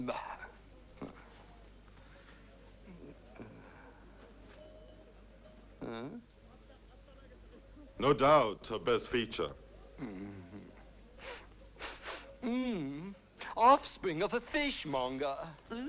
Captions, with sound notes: - Nah. (Grunts) (Rothrar hums) Hmm? - No doubt her best feature. (Rothrar chuckles) (Rothrar sniffing) - (Groans) Offspring of a fish monger, ew!